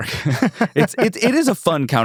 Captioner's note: laughs